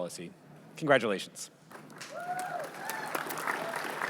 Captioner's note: cheering